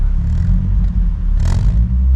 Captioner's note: more Xsara exhaust fart noises